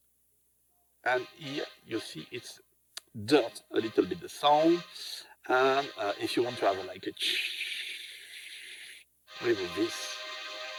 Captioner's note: breath